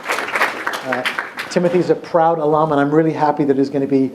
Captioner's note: applause